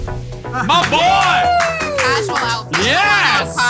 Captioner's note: cheering